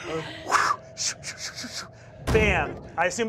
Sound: mimics whooshing

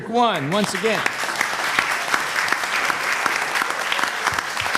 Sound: applause

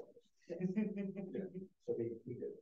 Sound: laughing

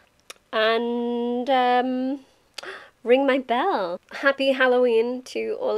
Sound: gasp

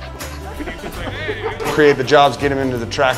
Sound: people chattering and laughing

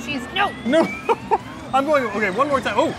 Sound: laughs

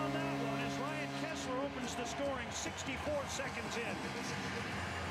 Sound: cheers, applause

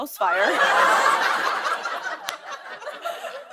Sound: laughter

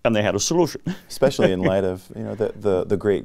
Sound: laughs

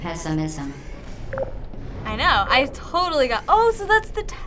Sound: intercom turns off

